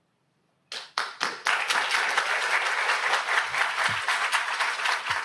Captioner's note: audience applauds